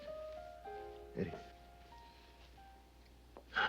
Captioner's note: chuckles